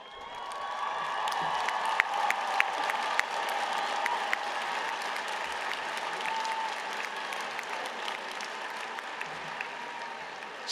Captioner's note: applause